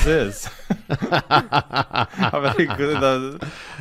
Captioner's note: laughter